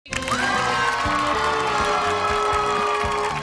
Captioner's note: cheers and applause